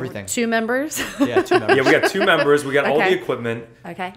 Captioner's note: laughter